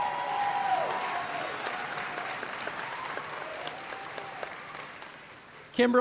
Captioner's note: applause